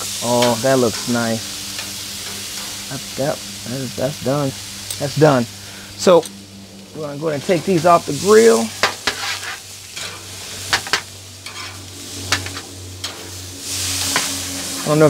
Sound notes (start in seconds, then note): 9.4 sizzling and utensils clanging; 13.6 plane engine roaring